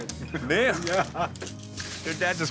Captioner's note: laughs